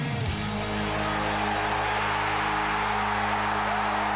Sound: crowd cheering

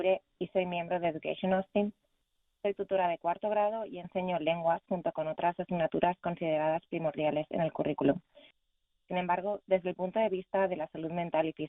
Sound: speaking spanish

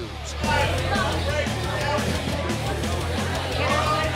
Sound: noisy bar chattering

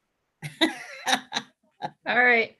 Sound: laughing

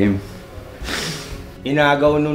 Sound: laughs

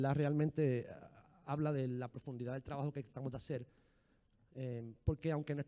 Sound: speaking in foreign language

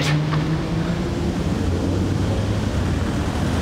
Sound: traffic sounds

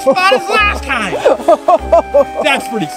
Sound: Marshall laughing

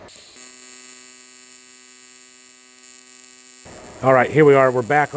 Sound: welder buzzing

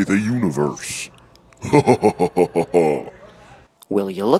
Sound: laughing eeeevilly

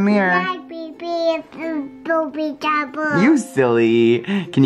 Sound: babbles

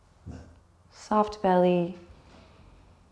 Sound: Benji barks softly

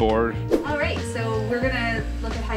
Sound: air whips

